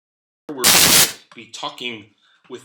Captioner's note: static